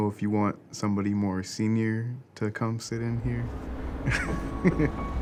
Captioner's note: laughs; subtle music